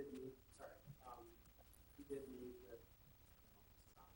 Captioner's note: speaking off-mic